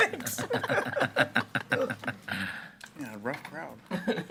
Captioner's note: school board laughing